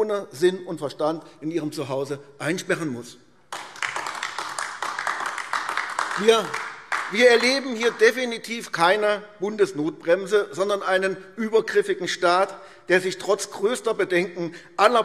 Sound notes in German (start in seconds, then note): 3.5 Beifall AfD